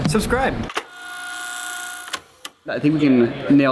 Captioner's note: disembodied voice; rewinding sound